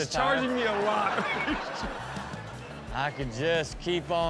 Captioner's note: all laugh